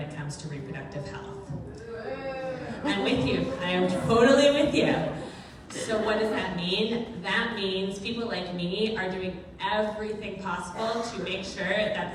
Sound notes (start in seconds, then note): 2.0 crowd booing